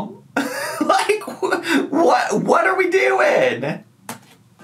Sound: laughs

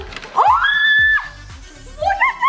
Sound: screaming

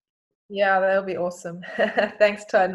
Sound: laughing

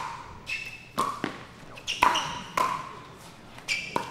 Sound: ball bouncing

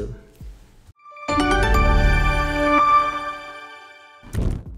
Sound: bright noise

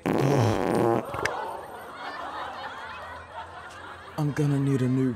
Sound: Ron farting; crowd gasping; girls laughing

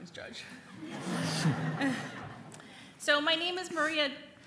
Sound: audience laughing

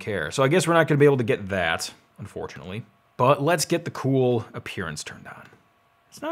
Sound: none

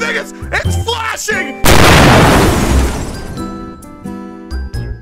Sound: boom

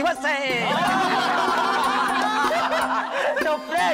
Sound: laughs

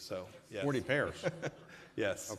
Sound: laughter

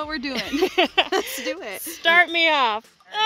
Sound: laughing

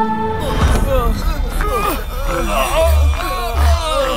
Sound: groans

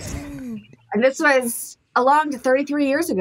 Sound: laughing

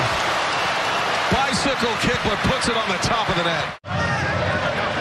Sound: cheers and applause

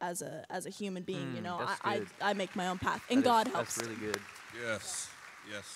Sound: applause

